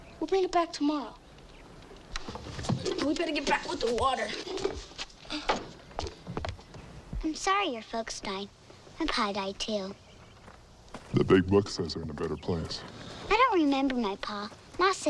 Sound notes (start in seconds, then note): none